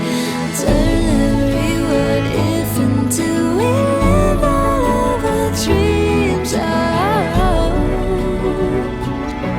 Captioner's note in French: chant; chant